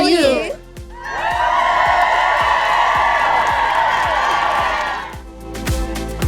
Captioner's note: crowd cheering